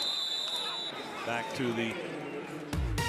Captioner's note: whistle